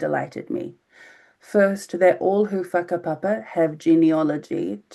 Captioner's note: speaking in foreign language